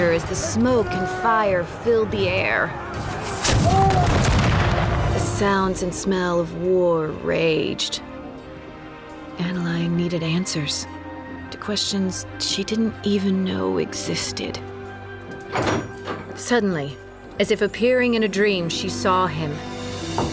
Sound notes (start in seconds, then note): 3.3 cannon blasts, gunfire; 15.3 door opens